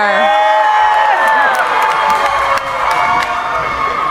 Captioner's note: cheering